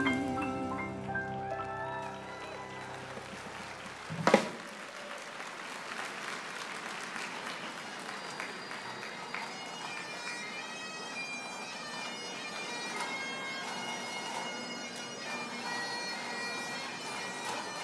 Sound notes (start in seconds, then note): 4.2 applause; 12.1 bagpipe music